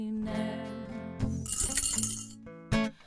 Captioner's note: change rattles in tip jar